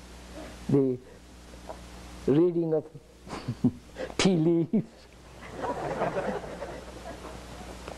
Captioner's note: laughter